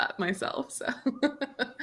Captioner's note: chuckles